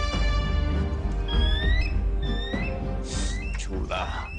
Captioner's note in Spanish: Graznidos